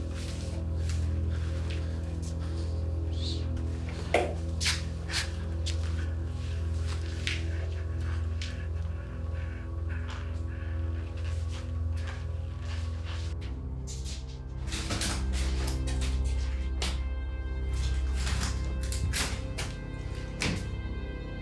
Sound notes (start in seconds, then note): 14.6 Anderson scuffling; 18.8 eerie music